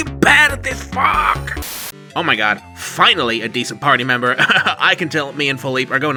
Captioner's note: static